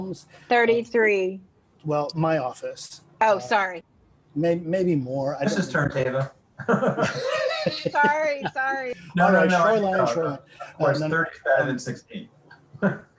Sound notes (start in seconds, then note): 6.6 chuckling